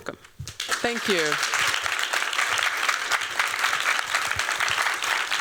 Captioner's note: applause